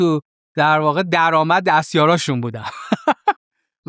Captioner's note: laughs